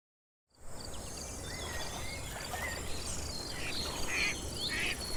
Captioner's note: crickets and birds chirping